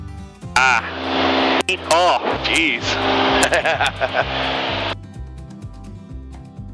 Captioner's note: laughs